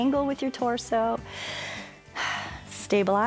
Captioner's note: inhales and exhales